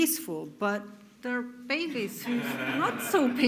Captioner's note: audience laughs